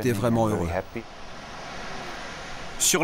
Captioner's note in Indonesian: suara ombak